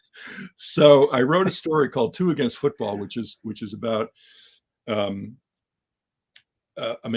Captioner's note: laugh